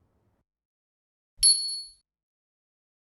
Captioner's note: bell dings